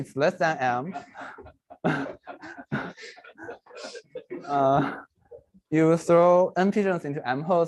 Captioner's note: laughter